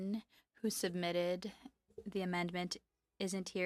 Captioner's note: speaking French